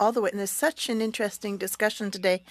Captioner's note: speaking French